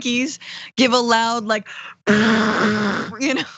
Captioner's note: laugh